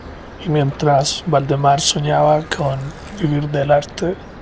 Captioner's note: narrator speaks Spanish